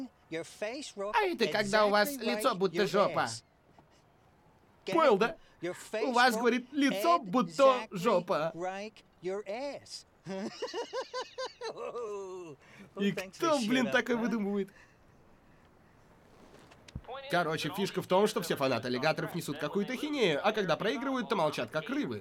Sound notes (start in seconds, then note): 4.4 chuckles; 10.2 laughs